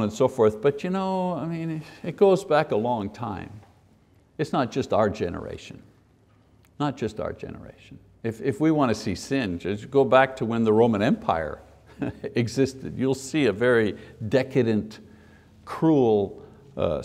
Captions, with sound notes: and so on and so forth, but it goes back a long time. It's not just our generation. Not just our generation. If we want to see sin, go back to when the Roman Empire [laughs] existed. You'll see a very decadent, cruel society.